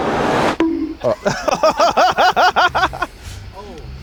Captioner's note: crew laughs